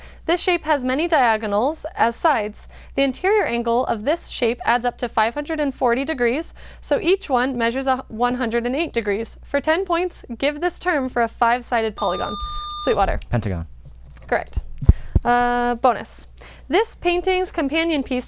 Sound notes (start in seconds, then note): 12.0 buzzer